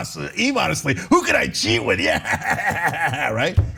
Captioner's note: laugh